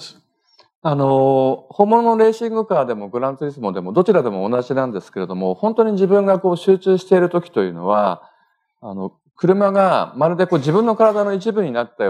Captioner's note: speaking japanese